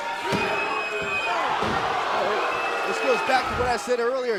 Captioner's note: crowd cheering